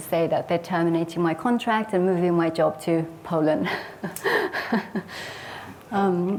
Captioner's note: laughs